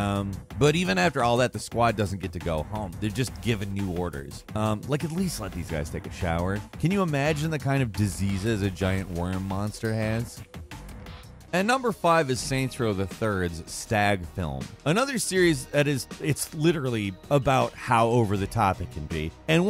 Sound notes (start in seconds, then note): none